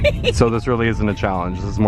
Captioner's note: laughing